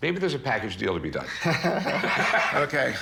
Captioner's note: both laugh